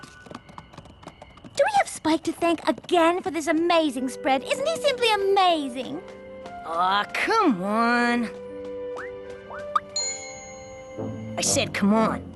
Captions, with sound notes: Do we have Spike to thank again for this amazing spread? Isn't he simply amazing? Aw, come on. [ Poink! ] I said, "come on."